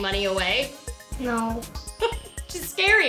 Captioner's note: laughs